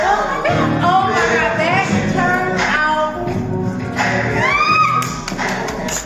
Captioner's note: shrieks